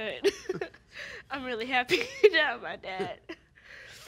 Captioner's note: both laughing